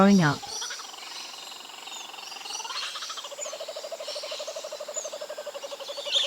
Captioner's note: bird sounds